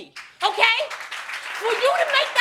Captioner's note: audience applauds